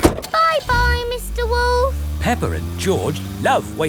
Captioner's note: engine starts